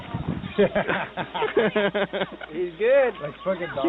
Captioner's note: soldiers laughing